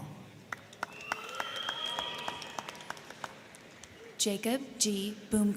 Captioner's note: crowd clapping; crowd cheering